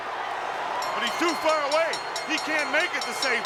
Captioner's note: bell ringing